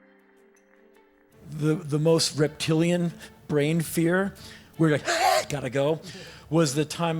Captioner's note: screech